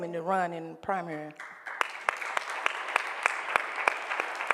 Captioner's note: applause